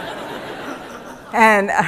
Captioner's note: laughter